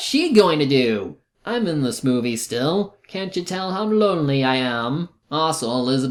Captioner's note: imitating Don Juan